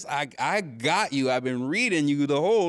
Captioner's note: none